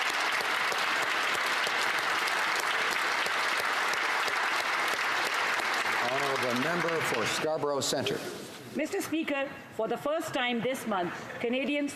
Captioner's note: applause